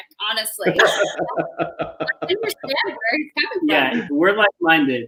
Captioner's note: chuckling